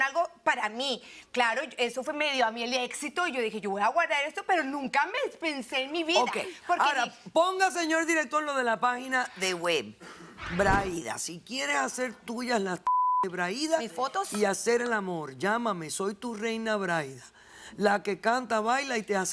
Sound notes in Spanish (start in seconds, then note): 12.8 Bip